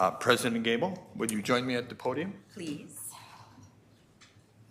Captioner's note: none